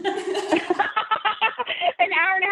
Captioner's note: all laughing